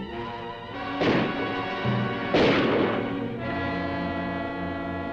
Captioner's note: gun firing; dramatic music